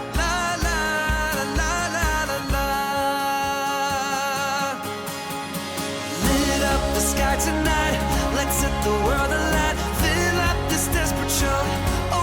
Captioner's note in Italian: Applauso